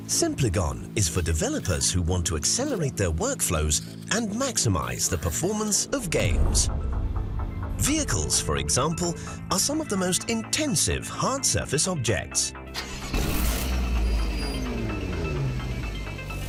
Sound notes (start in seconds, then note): 5.8 tense music; 12.7 car engine starts